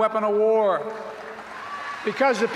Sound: applause

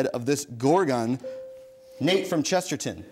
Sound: bell dings

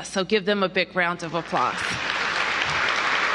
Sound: applause

